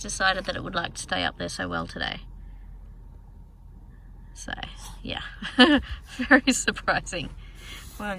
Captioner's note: laughs